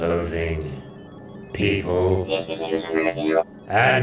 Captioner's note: alien chatters